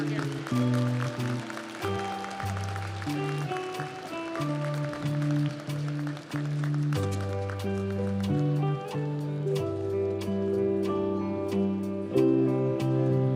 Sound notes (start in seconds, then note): 2.7 audience applauds; 2.7 commencement music